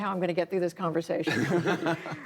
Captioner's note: laughter